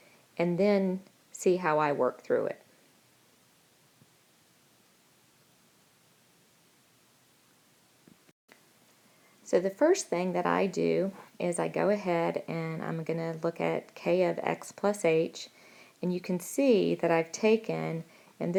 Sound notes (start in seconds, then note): 2.6 silence